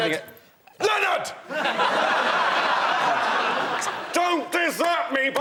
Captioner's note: shouts